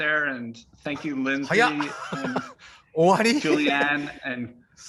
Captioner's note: Takashi speaking in Japanese